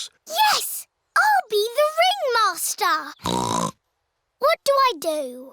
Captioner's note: snorts